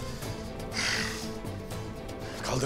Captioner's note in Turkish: Nefes sesi